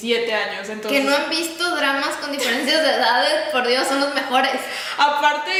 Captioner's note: cof